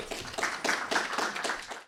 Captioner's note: applause